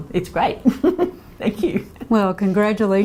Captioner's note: laughs